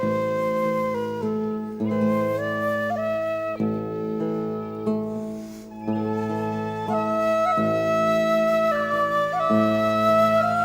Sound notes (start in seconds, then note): none